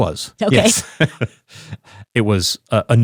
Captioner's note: chuckles